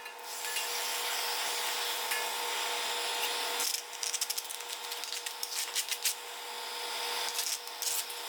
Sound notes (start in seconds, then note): 0.5 heat gun whirring